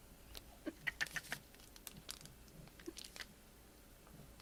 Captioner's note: laughs quietly